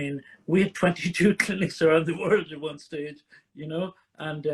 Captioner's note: chuckles